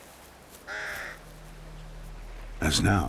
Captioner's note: squawks